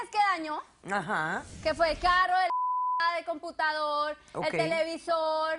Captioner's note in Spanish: Bip